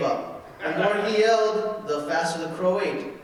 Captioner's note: audience laughing